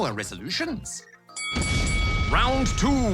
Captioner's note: bell dings